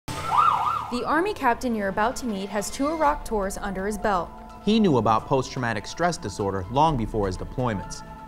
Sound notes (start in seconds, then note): 0.0 siren wailing